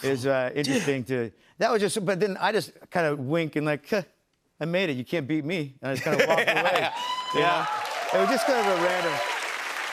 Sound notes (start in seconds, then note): 6.1 laughs; 6.7 cheers and applause